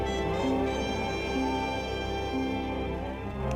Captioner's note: cows mooing